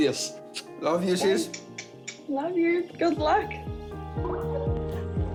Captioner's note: blows kisses